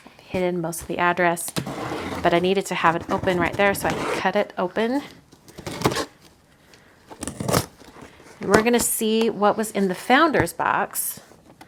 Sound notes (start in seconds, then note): 7.2 scissors cutting box